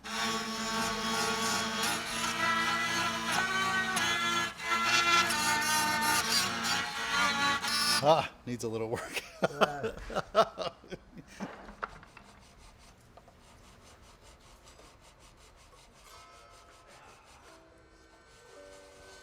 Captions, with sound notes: (instrument straining) - Ah! Needs a little work (laughs). (instrumental music)